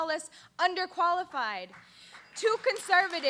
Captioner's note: applause